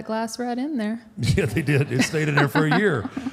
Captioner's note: Michelle laughs